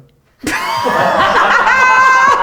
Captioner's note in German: alle lachen